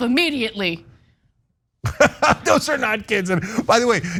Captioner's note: laugh